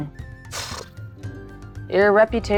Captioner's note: puffing